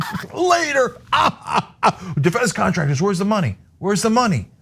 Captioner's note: laugh